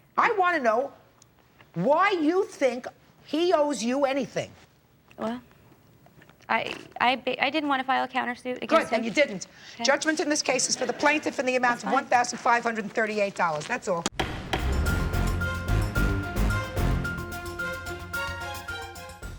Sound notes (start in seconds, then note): 14.1 gavel bangs